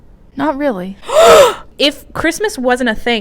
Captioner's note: gasp